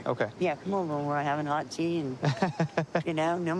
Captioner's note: laughs